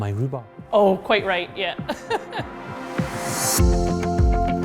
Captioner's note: laughs